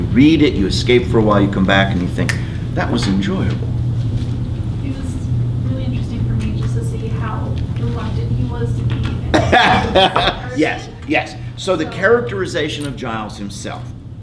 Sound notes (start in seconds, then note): 9.2 laughs